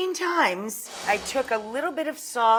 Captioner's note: note swooshes